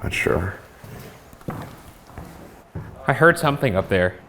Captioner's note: footsteps descending